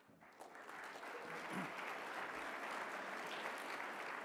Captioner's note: applause